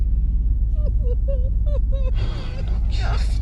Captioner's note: Martha crying